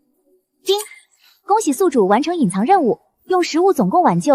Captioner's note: ding!